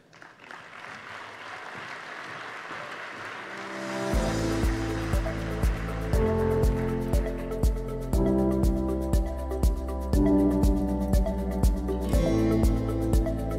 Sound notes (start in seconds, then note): 0.0 applause